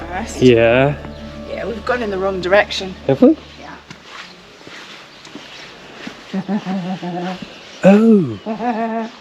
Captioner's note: laughs